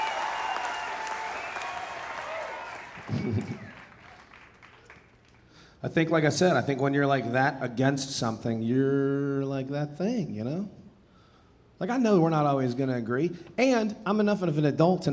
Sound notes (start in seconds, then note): 3.0 chuckling